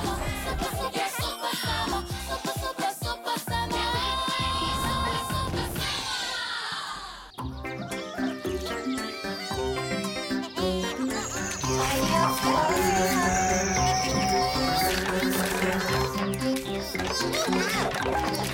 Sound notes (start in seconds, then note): 7.9 rooster crowing; 10.3 Bongolalas chattering; 13.4 chuckling